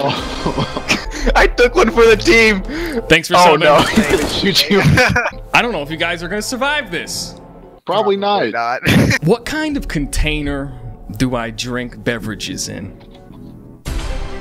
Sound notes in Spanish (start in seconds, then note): 4.4 risas